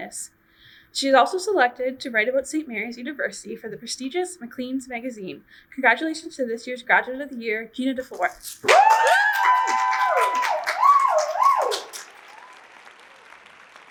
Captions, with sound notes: She is also selected to write about Saint Mary's University for the prestigious Macleans Magazine. Congratulations to this year's Graduate of the Year, Gena Dufour! (audience cheers)